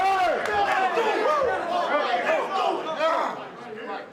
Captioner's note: group chattering